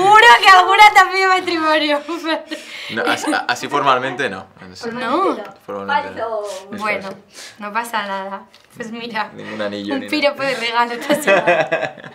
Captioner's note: laughter